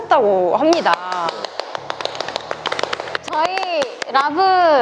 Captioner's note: clapping